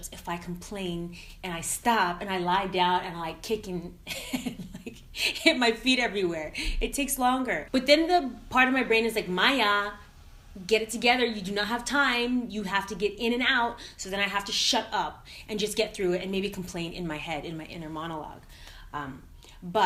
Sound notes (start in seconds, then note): 4.1 laughing